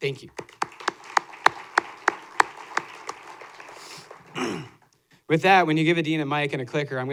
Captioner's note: applause